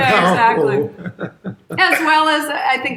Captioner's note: chuckles